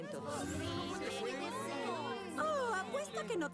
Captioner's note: loud complaining